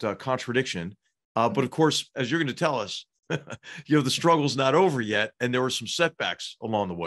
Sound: laugh

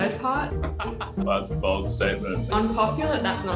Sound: laughs

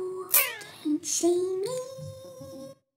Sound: whispering

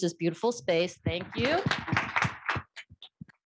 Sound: applause

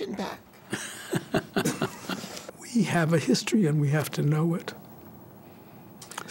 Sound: both laugh

